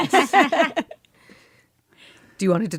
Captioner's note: laughter